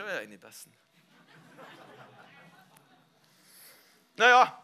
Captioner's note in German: Lachen im Publikum